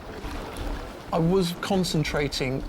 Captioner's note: water splashing